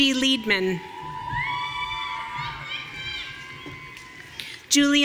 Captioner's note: audience cheering